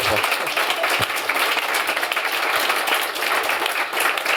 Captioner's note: applause